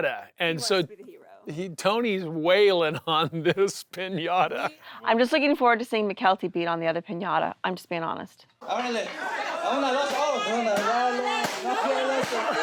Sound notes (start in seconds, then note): 2.9 laughs; 8.2 shouting; 9.0 chanting in non-english